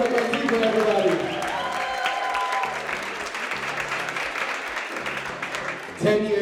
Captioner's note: audience cheers; audience applauds